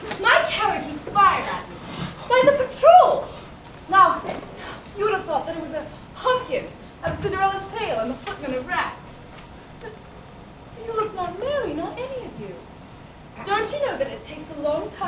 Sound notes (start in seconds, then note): none